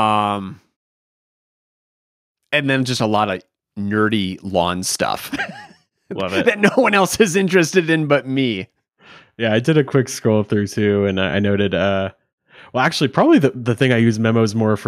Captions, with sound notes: - And then just a lot of nerdy lawn stuff. (chuckles) - Love it. - That no one else is interested in but me. - Yeah, I did a quick scroll through too and I noted, well, actually probably the thing I use memos more